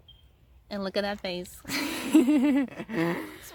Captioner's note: both laugh